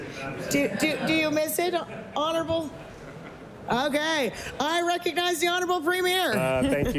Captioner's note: laughing